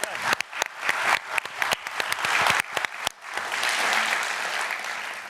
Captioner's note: applause